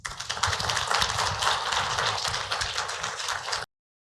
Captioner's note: applause